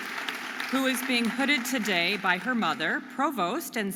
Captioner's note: audience applauding and cheering